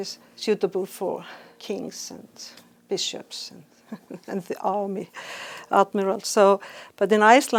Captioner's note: chuckles